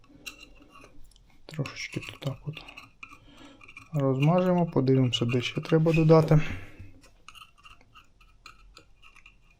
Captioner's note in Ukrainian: сопіння